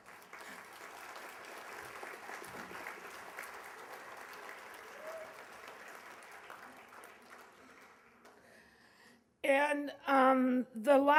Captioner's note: applause